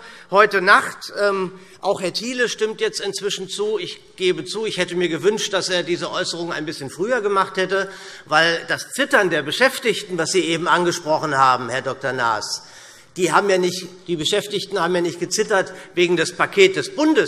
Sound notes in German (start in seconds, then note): none